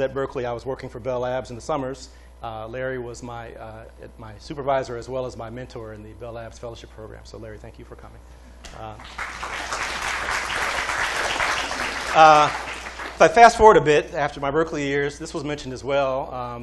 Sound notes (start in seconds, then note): 8.9 applause